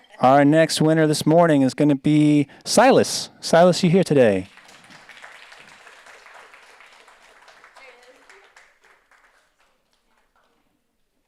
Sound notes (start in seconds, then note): 4.3 audience applauds